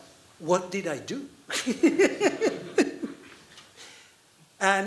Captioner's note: laughing